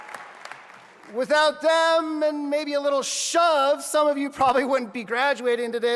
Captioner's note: applause